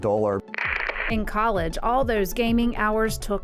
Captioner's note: static